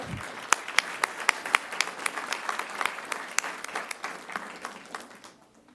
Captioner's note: applause